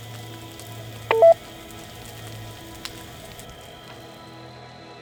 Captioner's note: two-way radio beeping